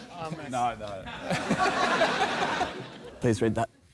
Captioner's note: laughter